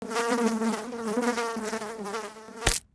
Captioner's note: fly buzzing; fly splatting